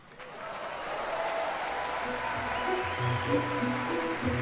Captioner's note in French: applaudissements